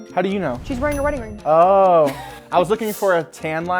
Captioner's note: laughing